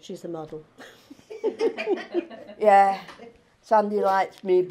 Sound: laughing

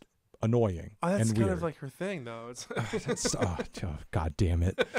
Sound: laughs

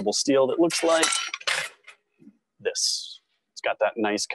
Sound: metal clinking

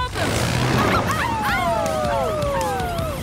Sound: howling

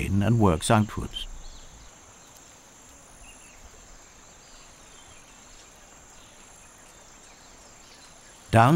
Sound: birds chirping

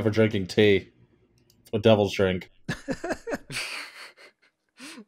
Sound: laughter

